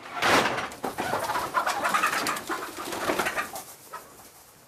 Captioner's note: chickens clucking